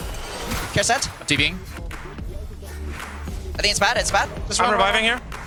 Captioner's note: teammates communicating